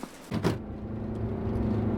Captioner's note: door shuts